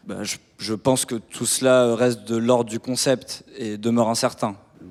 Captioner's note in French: none